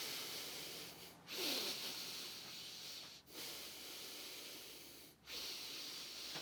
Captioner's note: heavy breathing